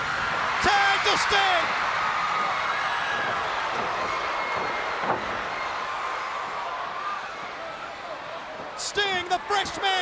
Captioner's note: crowd cheering